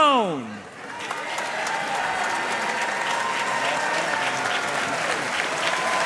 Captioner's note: audience cheering and applauding